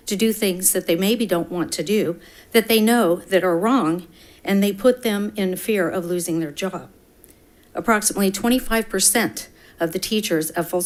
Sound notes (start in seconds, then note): none